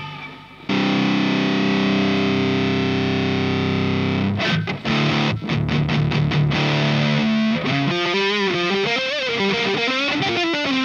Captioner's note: High gain sound